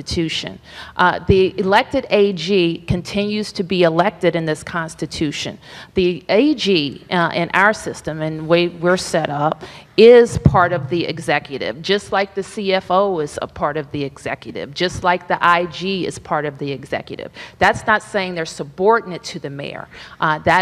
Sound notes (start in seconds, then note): none